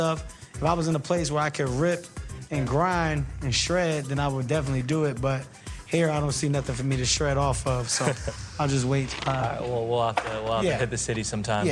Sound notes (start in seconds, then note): 7.8 chuckles